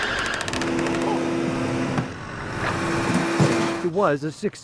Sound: sounds of machinery

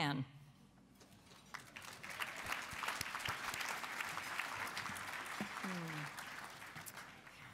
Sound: applause

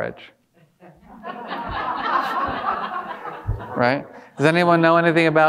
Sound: audience laughing

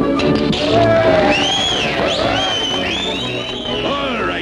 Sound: applause from the crowd

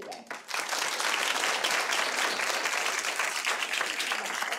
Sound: audience applauding

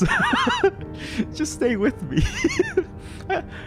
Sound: laughs; nervous laughter

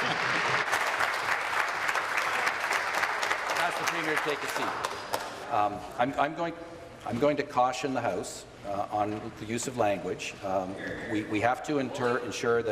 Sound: applause

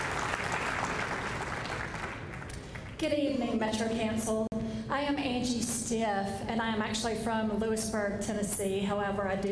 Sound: applause

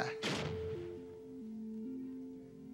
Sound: pack exploding; curious electronic music

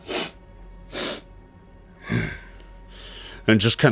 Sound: sniffs, grunts

